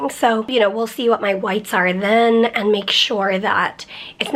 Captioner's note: none